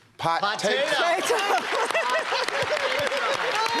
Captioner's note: laughs; applause